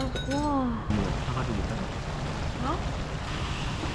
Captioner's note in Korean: 지글지글